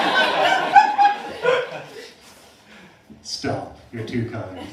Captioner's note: laughter